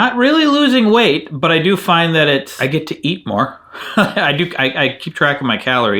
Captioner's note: laughs